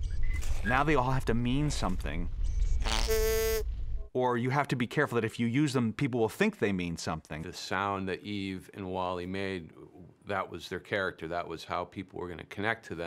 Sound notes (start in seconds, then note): 2.4 snorts